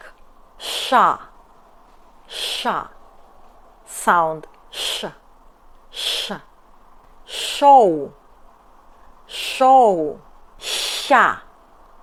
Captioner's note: shooo